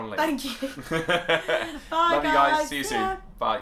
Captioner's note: laughter